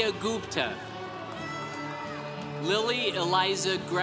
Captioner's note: congregation cheering